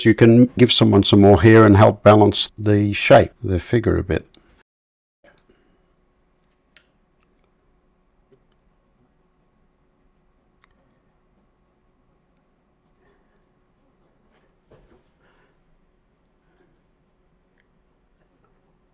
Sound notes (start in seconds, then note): 6.9 silence